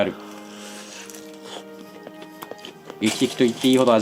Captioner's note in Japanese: 咀嚼音